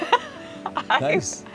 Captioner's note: laughs